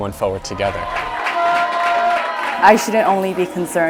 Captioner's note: cheering